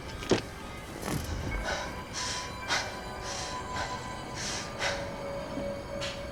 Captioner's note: panting